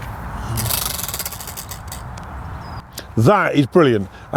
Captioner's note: wheel spinning